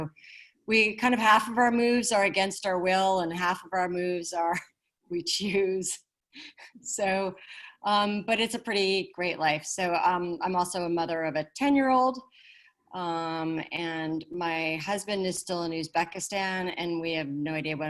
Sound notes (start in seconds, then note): 5.8 chuckles